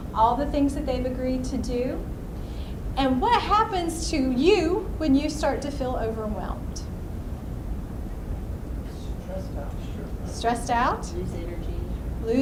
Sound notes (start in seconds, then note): 9.3 voiceover; 11.5 voiceover